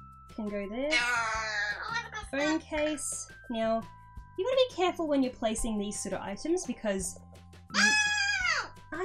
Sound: aaaaa

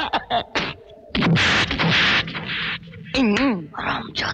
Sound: thwacking

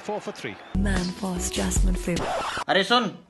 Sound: ad plays again on TV

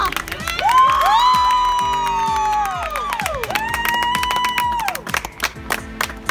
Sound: cheers

